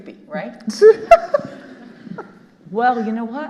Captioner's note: all laughing